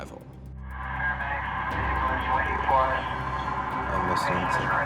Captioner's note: muffled radio transmission